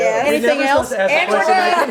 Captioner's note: laughs